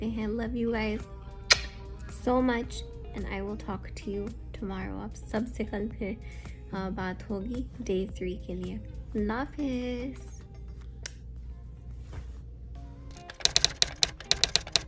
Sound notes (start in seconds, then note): 1.4 blows kiss